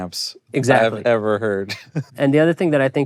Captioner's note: chuckling